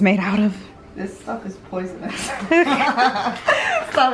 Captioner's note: they both laugh